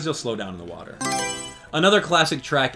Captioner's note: Mario Selection Sound